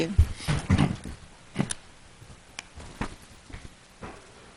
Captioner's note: clears throat